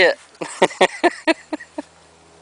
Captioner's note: laughs